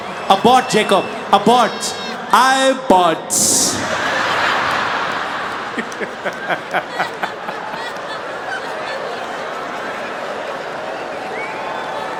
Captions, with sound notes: Abort Jacob Abort I bought *Laughing*